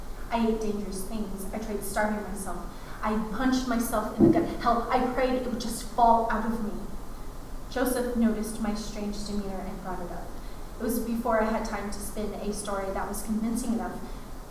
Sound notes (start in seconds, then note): none